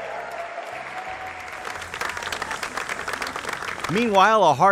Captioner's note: cheering